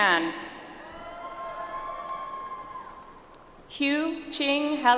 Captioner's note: audience applauds